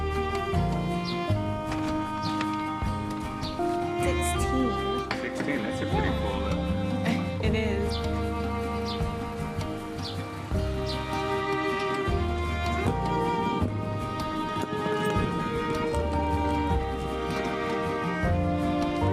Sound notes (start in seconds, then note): 3.5 birds chirping; 11.5 birds chirping; 16.9 suitcase wheels rolling